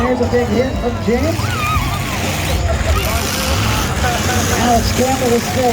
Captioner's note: engines rev and crowd cheers